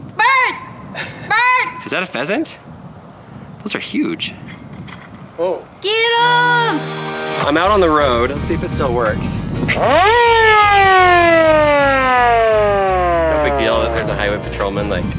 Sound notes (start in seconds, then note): 5.8 yells; 6.7 upbeat music; 9.8 siren